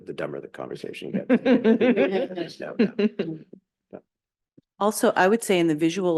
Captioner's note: laughing